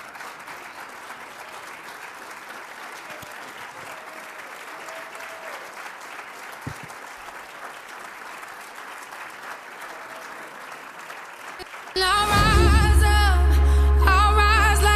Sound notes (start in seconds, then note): 4.4 applause